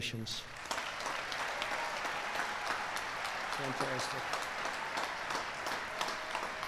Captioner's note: applause